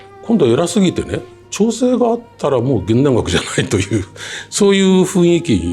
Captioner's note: laughs